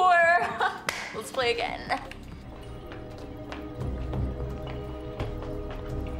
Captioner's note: footsteps